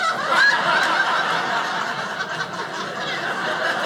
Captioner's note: audience laughing